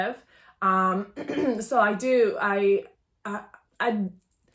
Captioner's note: coughs